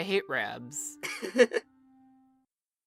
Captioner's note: paintbrush chuckles